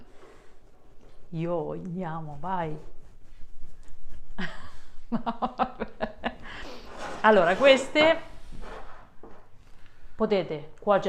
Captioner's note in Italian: Risate